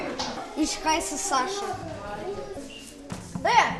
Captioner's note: in German